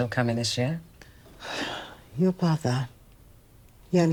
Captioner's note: Evelyn sighing